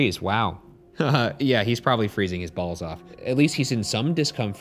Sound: chuckles

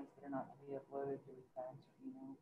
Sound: speaking faintly

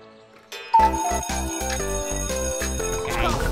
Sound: clock ticking, bell ringing

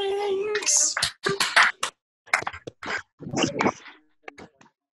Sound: students clapping

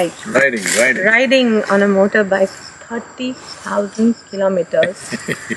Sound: Sadhguru laughs

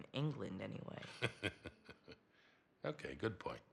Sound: laughs

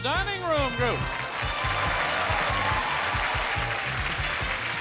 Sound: audience cheering

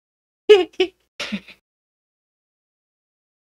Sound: giggles

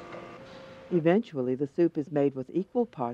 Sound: voiceover

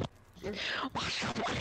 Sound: sharp-ass inhale

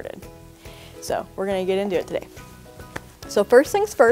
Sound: claps

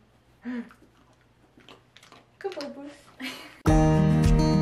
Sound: gasps; sunny Day Music

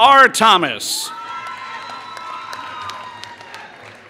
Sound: applause

